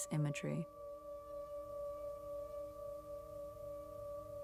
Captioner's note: ominous ringing